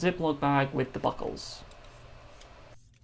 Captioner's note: French accent